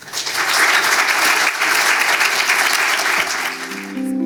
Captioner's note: audience applauding